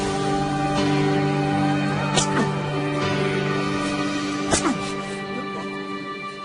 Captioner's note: man groaning